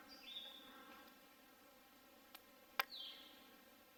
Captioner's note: birds chirping